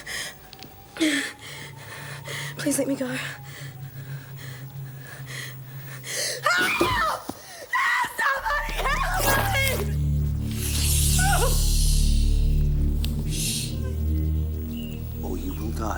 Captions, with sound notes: - Please let me go. Help! Somebody help me! (whimpering) - Shh, shh, or you will die.